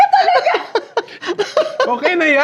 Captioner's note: laughs